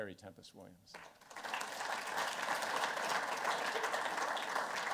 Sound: applause

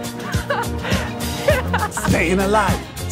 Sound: laughs

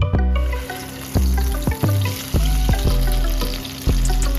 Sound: pan sizzling

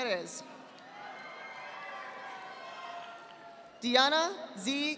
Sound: audience applauding

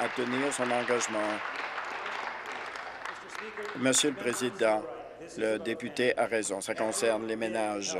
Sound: applause

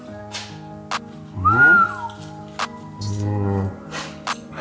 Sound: whistles

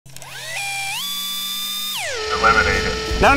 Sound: robotic whirring

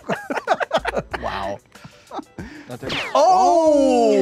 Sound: all laughing

